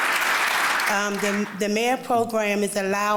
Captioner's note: applause